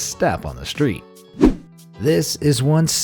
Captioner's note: air whooshing